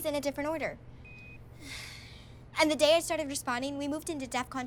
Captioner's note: sighs